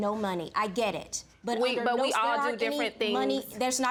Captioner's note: judge faith stuttering